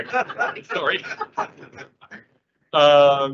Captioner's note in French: rires